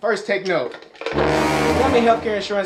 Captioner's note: loud ominous sound